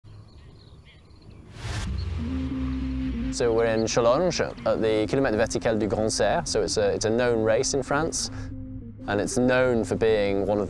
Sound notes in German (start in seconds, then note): 0.0 Vogelgezwitscher; 1.8 eindringliche Musik